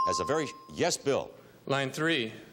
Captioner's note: bell dinging